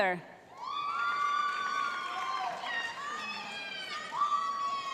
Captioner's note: cheering